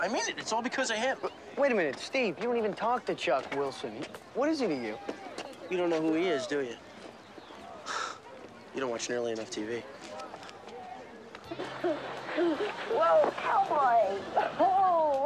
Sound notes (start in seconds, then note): 8.1 scoffs; 11.4 laughing